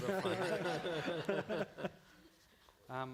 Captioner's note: laughter